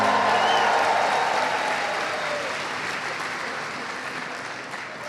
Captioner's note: audience cheers and applauds; audience member whistles